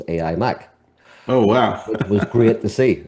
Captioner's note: laughs